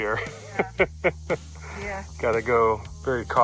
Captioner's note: laughs